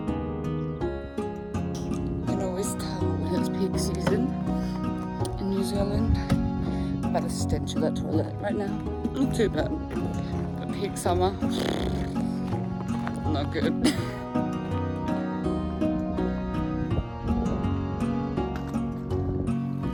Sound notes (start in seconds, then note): 14.5 blows raspberry